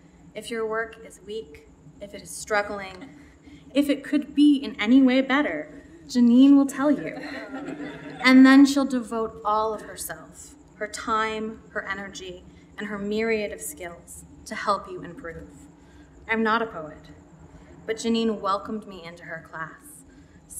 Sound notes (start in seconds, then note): 6.9 laughter